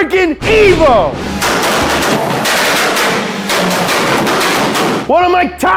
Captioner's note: engine backfire sounds